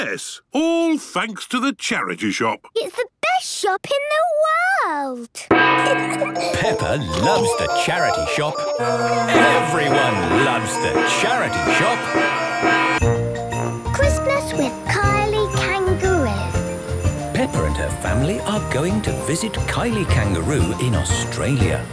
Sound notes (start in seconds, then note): 5.6 kids giggling; 11.6 dissonant music